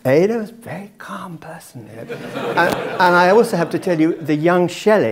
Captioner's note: laugh